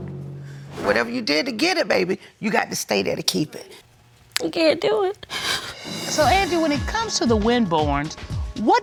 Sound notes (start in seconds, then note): 5.2 sobs